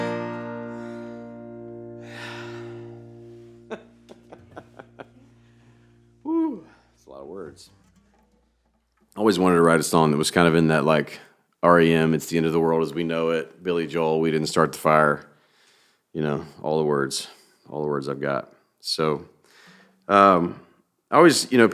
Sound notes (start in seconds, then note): 1.9 sighs; 3.5 laughing